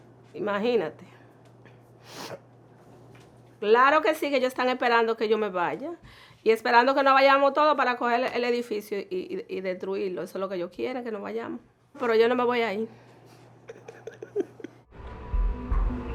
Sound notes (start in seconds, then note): 2.0 sniffling; 13.6 laughing gently